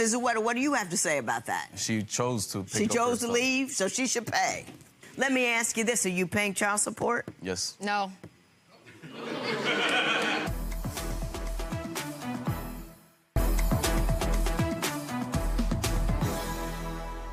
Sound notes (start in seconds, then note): 9.1 audience groans; 11.0 dramatic music